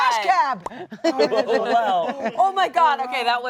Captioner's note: all laugh